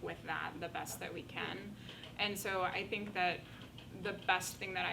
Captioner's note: none